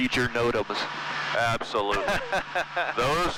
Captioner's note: laughing